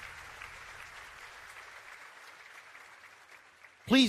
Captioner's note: applause